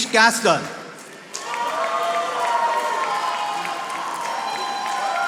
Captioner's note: audience applauding